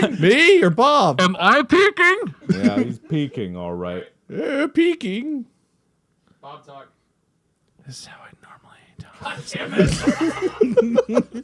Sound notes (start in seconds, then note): 0.8 making himself louder; 4.3 Wade, in an old man voice; 9.5 Mark, Bob, and Wade all giggle